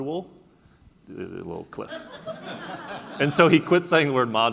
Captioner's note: laughing